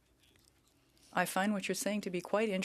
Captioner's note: speaking French